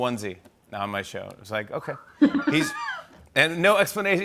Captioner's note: laughs